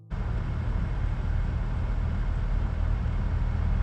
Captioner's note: truck rumbling